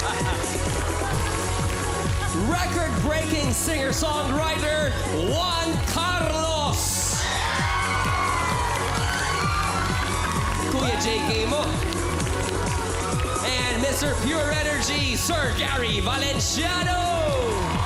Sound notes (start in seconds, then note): 0.0 chuckles; 7.0 audience cheering